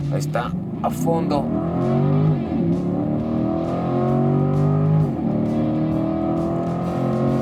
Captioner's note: engine revving